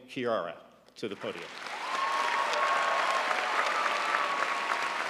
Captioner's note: audience applauding